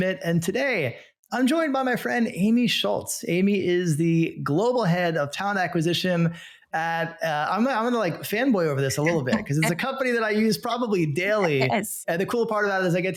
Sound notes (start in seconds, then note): 9.0 laughing